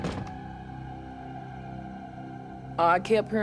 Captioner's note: thumps